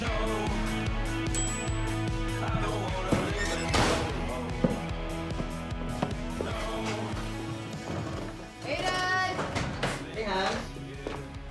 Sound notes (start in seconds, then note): 0.8 oven timer dings